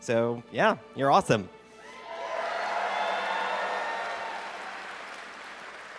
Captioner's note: cheering